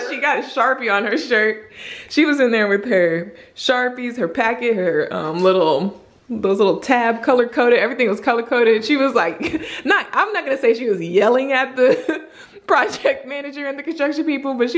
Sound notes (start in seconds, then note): 9.4 giggles